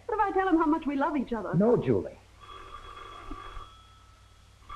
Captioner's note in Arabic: يرن الهاتف